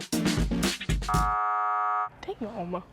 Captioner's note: buzzer buzzing